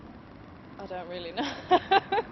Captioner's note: laughs